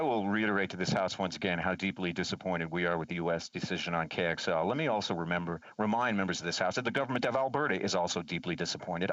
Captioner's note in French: voix de l'interprète